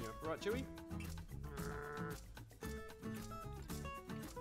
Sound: growling

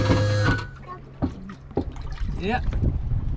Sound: motor whirring; water splashing

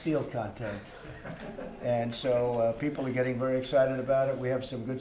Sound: laughter

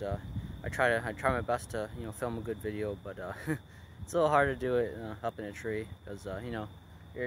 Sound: laugh

